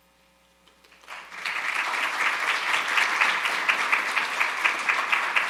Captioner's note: audience applauding